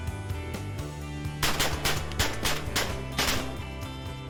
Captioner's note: gunfire